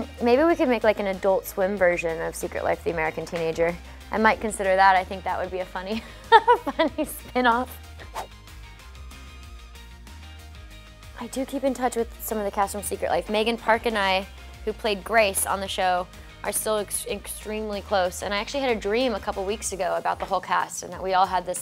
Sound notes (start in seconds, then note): 6.3 laughing; 8.0 whooshing